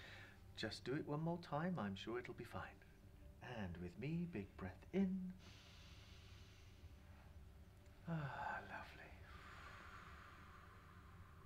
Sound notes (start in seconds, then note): 5.3 inhaling